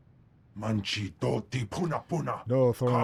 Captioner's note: speaking foreign language